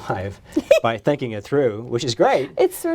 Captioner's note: both laughing